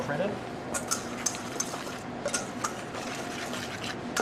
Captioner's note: metal whisking